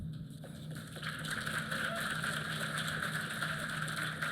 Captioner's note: applause